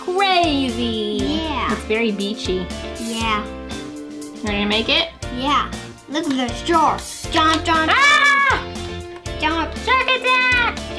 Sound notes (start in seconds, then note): 8.1 mom yells